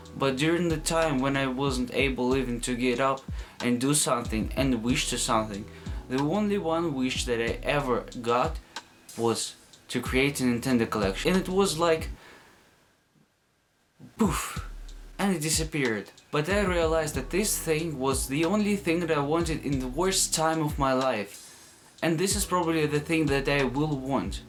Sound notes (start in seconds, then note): 14.1 poof